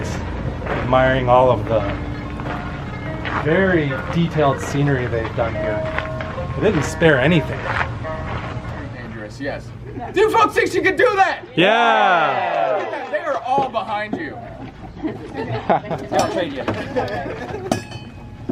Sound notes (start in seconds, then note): 11.3 crowd; 14.9 laughter